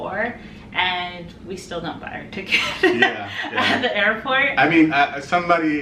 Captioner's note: laughs